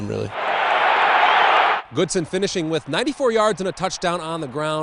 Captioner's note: crowd